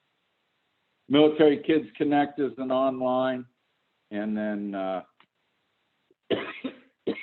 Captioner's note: coughs